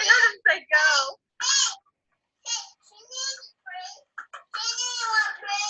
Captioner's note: disembodied Female Voice